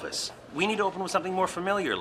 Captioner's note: none